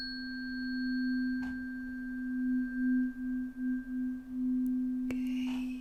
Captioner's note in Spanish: campana